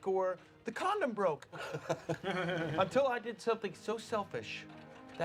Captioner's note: chuckles